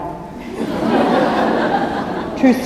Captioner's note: laughter